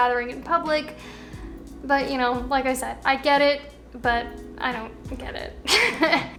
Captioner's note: laughs